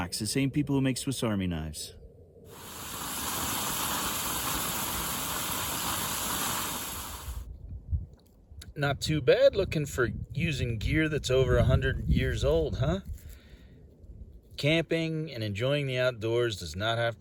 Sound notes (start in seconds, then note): 2.5 food sizzles in pan